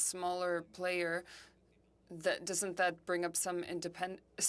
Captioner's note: speaking French